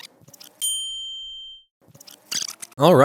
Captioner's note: picture pings in